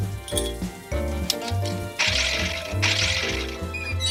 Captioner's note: object whirring; knobs squeaking